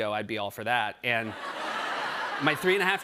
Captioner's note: laughter